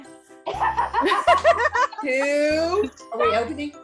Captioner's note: group laughing